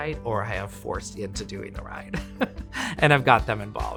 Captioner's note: laughs